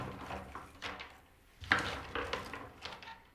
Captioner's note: quiet clatter